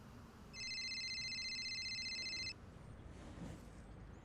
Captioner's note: cellphone ringing